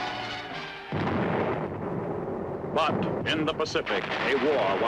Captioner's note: artillery firing